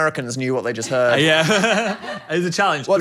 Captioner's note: laughs